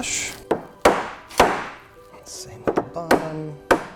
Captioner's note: hammering